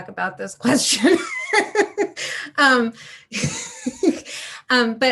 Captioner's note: speaker laughing